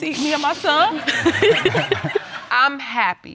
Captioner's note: laughter